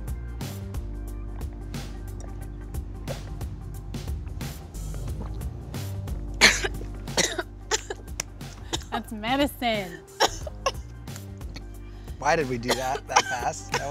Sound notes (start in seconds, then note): 6.4 coughing